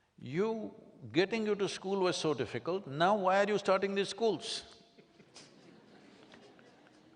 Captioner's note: laughter